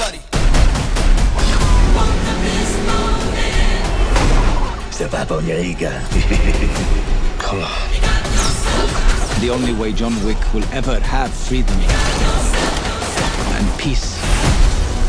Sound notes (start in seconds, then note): 0.2 drums beating; 1.0 tires screeching; 2.5 cars thudding; 6.0 chuckling